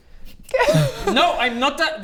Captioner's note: cringe laugh